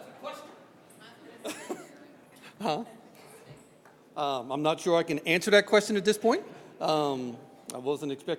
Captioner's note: laughs